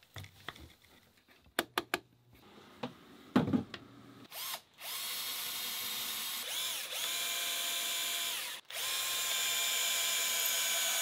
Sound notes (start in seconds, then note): 4.2 drilling